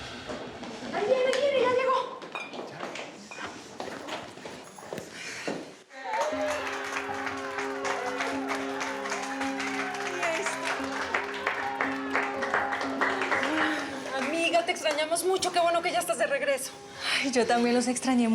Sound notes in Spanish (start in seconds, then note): 6.0 aplausos y vítores; 11.0 aplausos